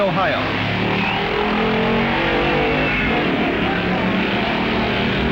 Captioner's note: hot rods revving